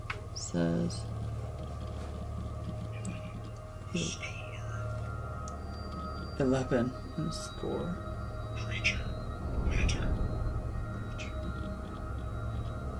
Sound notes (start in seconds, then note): 3.3 disembodied voice; 8.9 disembodied voice